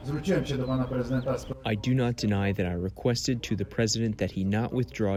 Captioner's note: through translator